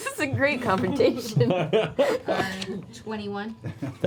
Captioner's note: laughs